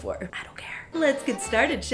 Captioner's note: whispering